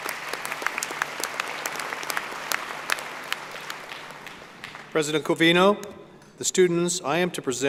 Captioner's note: applause